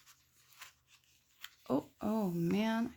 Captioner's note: paper rips